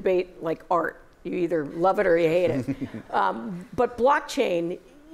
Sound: laughter

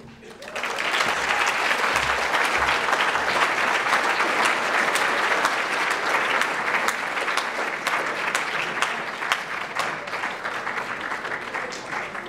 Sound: applause

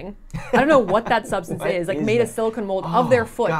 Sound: laughs

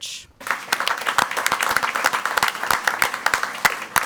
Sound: crowd clapping

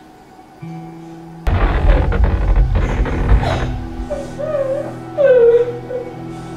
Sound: exploding sounds and crying

